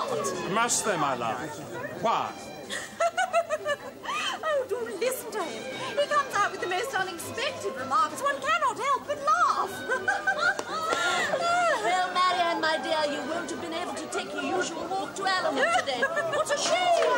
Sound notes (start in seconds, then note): 2.6 giggles